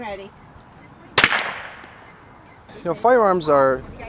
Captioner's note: gun bangs